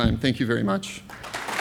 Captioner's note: cheers and applause